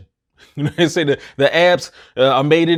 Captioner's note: chuckles